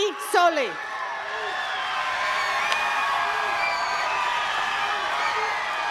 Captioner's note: attendees cheering and clapping